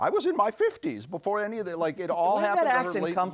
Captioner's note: In Julia Child's voice